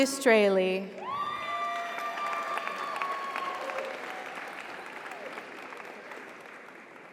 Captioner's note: audience cheers; audience applauds